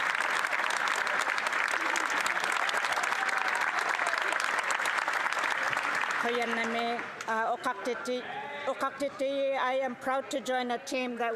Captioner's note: some Applause